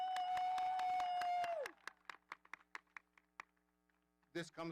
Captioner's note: audience cheering